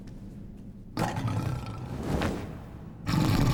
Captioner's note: growling